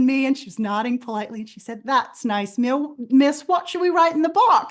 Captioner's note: british accent